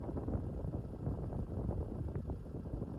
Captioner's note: wind blowing